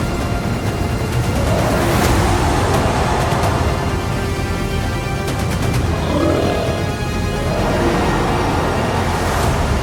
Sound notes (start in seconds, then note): 2.2 creature growling